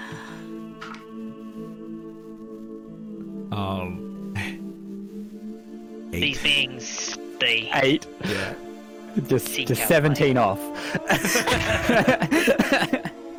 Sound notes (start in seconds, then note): 0.7 Scrappy dice clacks; 10.9 all laughter